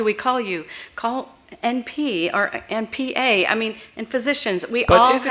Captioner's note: off mic